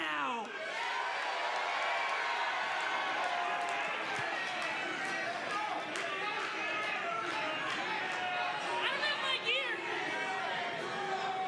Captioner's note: crowd cheering